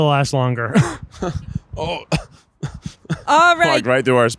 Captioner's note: chuckling